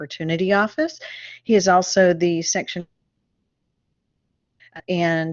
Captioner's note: audio cuts out